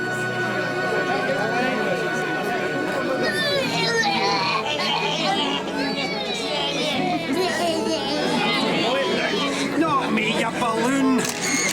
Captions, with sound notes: (crowd chattering) (boys groaning) - Boys. Not me, you balloon.